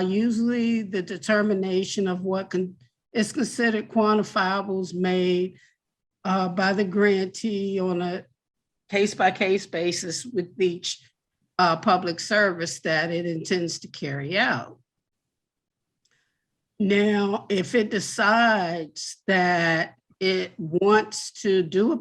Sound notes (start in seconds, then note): none